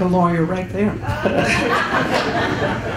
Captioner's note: chuckles